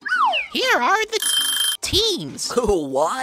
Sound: clock Ringing

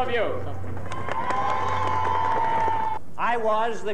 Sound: cheers and Applause

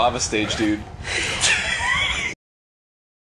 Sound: laughing

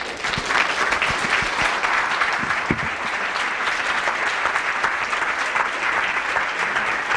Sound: audience applause

